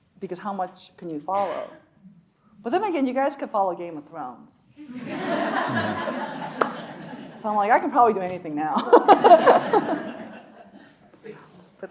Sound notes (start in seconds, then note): 4.9 audience laughing; 8.8 laughing; 8.8 audience laughs